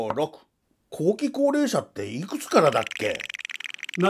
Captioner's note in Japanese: ルーレットの音